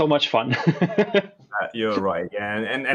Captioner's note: laughs